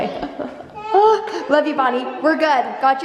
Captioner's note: laughs